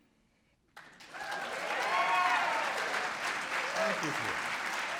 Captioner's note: audience applauding